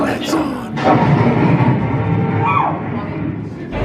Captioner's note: dramatic clunking